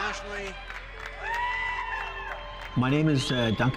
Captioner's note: cheering and clapping